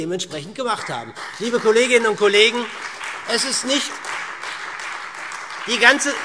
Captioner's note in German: Beifall SPD und Freie Demokraten